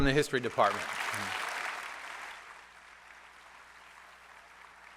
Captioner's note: applause